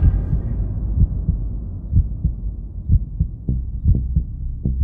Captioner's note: heart beating